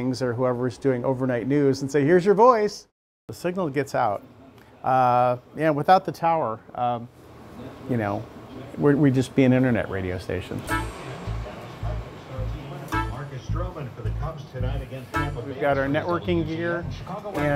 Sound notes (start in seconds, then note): 10.6 playful music; 13.4 radio Announcer